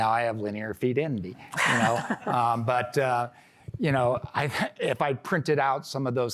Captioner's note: laughter